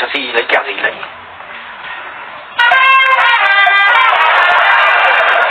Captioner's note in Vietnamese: Vỗ tay